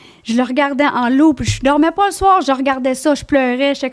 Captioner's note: in french